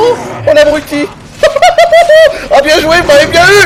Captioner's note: laughs madly